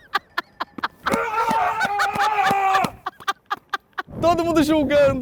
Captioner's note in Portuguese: gritando